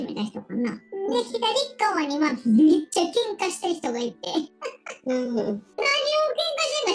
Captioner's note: laughs